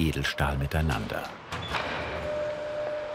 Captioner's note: clacking, whirring